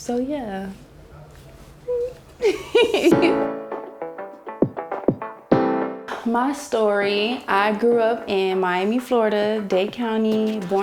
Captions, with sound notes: So, yeah. Mm. (laughs) (lively music) My story, I grew up in Miami, Florida, Dade County,